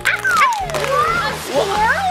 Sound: squirrel and bunny sliding

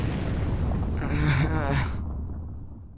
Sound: TRUNKS groans

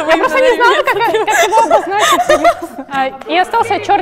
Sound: laughing at her own joke

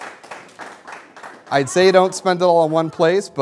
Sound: applause

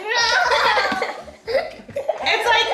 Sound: giggles

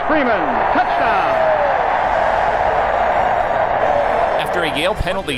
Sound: cheers

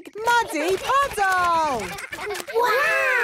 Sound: splashing

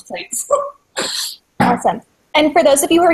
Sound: laughs

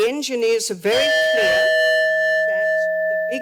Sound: timer dings

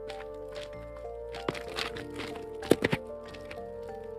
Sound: unpacking Sounds

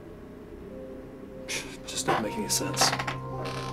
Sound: scoffs

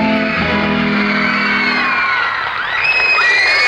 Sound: crowd screaming

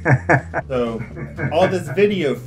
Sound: laughs

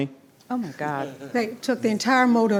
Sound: male vice laughs

